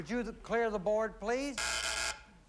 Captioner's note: buzzer